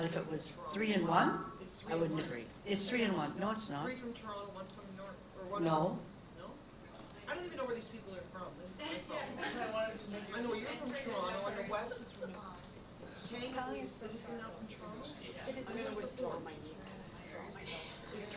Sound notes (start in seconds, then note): 13.7 board members murmuring